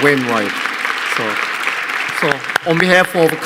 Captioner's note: audience applauding